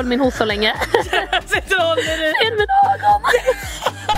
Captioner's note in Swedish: Skratt